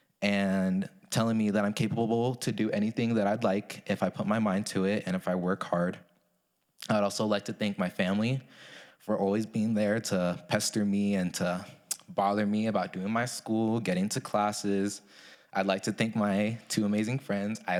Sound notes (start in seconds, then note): none